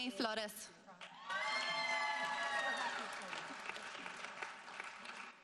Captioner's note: audience applauding